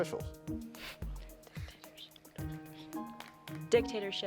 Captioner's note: team whispering